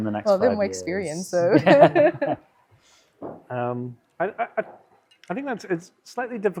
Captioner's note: laughing